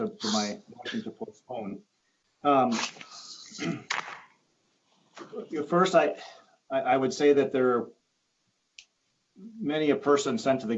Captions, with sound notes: in my lead up to my (distorted sound) postpone. First, I would say that there are many a person